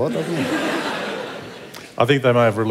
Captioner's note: laughter